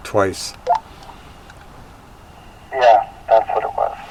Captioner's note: radio beeping